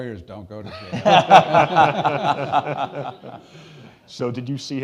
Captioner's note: all laughing